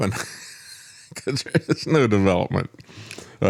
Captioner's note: laughs